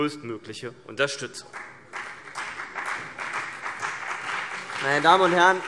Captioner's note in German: Beifall CDU und BÜNDNIS 90/DIE GRÜNEN